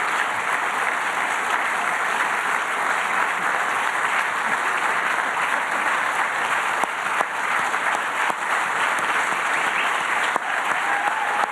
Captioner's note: applause